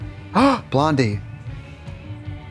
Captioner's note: pants